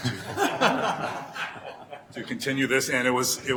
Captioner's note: laughing